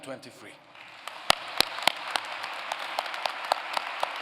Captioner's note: applause